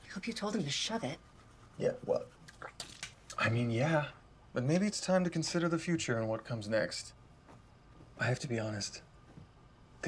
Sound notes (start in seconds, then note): 2.5 spits toothpaste